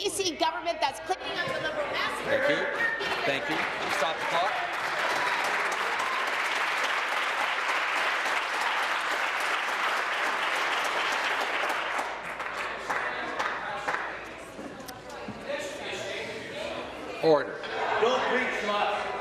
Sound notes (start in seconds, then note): 5.4 voice trailing; 8.2 applause